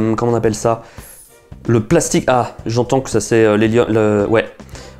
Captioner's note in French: pschtt